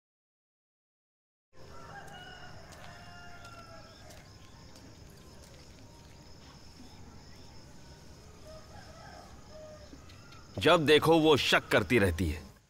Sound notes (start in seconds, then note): 2.6 birds chirping